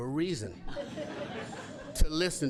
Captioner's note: laughter